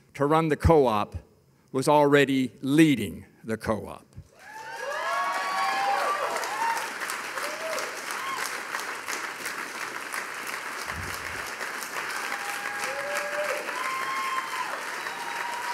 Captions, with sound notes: to run the co-op was already leading the co-op. (audience cheering) (audience applauding)